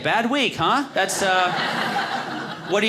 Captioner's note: audience laughing